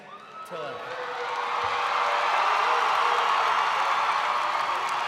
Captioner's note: crowd cheering